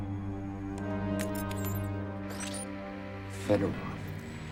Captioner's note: electronic sounds